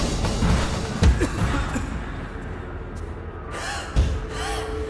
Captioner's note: Phil coughing; Phil wheezing